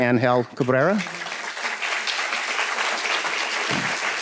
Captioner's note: students claps